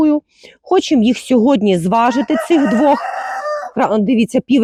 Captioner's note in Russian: крик петуха